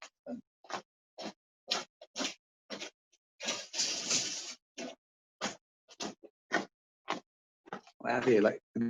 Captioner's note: footsteps and rattling off-screen